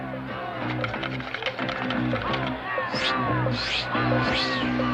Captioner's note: kids cheering